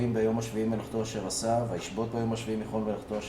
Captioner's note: Speaking Hebrew